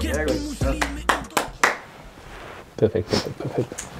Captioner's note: clapping hands